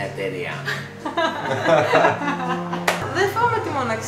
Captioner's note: laughters